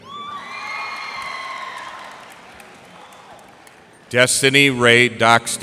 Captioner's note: cheers and applause